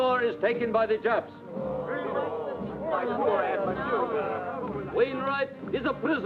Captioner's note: crowd grumbling